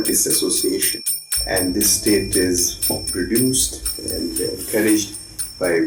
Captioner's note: bells jingling